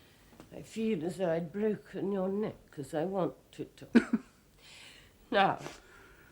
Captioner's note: puff of laughter